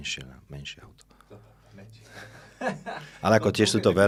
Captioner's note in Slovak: smiech